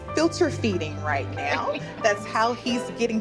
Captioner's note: laughing